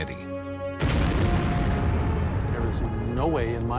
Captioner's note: explosion